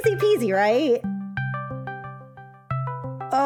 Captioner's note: Discord call ringing